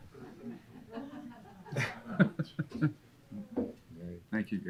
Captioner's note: audience laughing